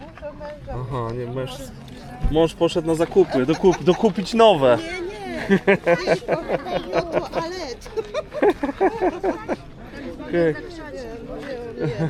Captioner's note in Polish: śmiech